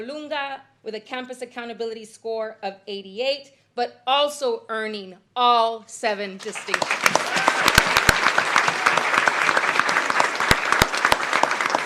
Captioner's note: applause